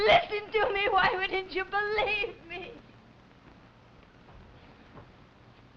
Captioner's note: crying